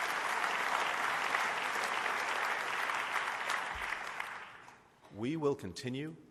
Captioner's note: applause